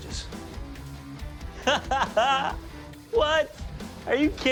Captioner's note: laughs